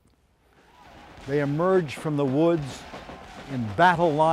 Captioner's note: soldiers shout